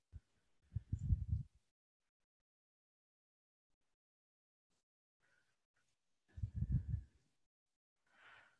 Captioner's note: silence